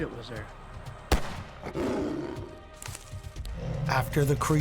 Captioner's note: shot guns fires; Bigfoot roars